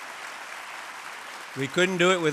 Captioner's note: applause